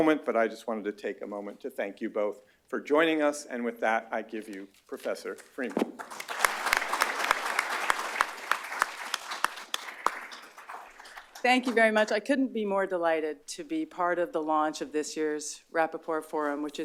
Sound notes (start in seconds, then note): 5.8 applause